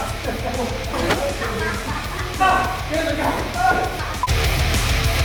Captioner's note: laughter